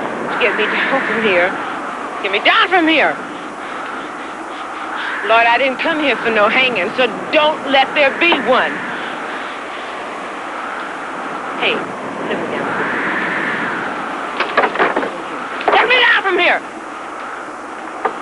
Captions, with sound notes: Get me down from here. Get me down from here! Lord, I didn't come down here for no hangin', so don't let there be one! Hey. Let me down from here. [stamping feet] Let me down. Let me down from here!